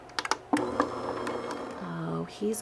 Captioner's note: machine whirring